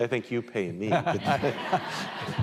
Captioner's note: laughter